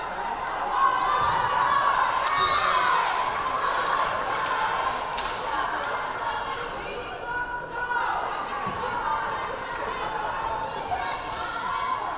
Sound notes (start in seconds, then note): 2.3 whistle blaring; 2.3 crowd cheering